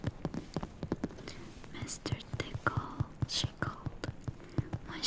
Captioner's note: taps